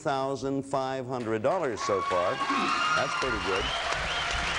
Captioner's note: crowd cheering